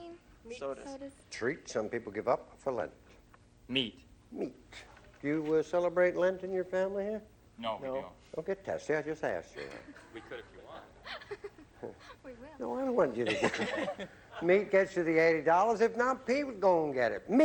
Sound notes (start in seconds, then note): 9.5 laughs